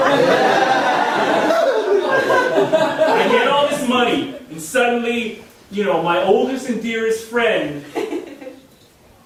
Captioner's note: audience laughing